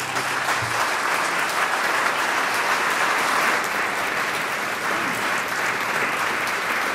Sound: applause

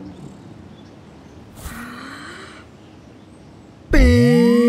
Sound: breathes in

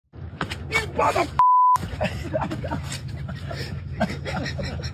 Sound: laugh

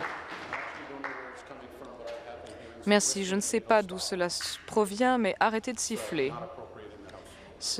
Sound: applause

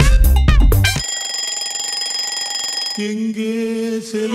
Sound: alarm bell ringing

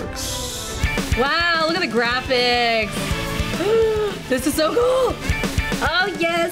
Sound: gasps

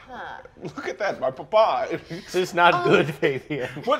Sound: laughing

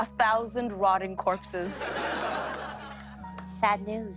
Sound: laughter

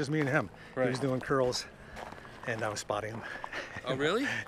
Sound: laughs

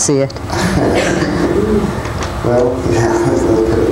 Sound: laughter

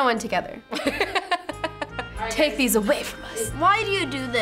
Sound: laughs

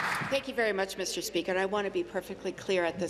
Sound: applause

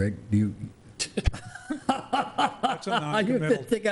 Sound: laughing

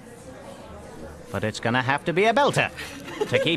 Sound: laughter

